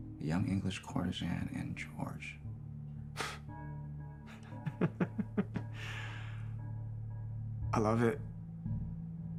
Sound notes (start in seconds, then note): 4.4 Bailey laughs